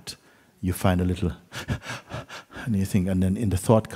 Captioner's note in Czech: zadýchání, lapání po dechu